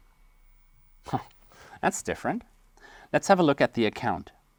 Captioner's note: laughs